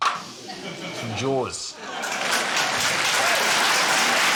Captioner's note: cheering, applause